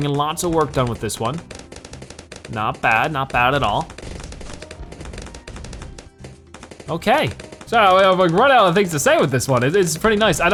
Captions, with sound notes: Okay we're getting in, lots of work done with this one. Not bad. Not bad at all. (weapons firing) Okay. So I've like run out of things to say this one. It's pretty nice.